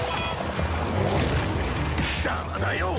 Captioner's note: bam